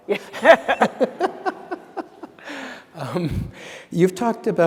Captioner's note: laughter